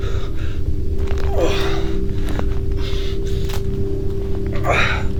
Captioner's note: Larry panting; Larry grunting